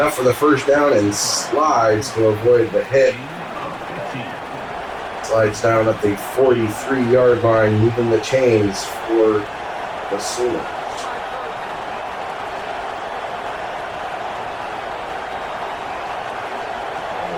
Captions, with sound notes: Enough for the first down and slides to avoid the hit. [Crowd Noises] Slides down at the 43 yard line, moving the chains for the ceiling. [Crowd Noises]